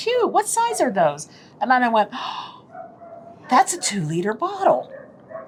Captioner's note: gasp